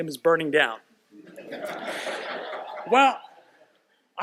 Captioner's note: laughter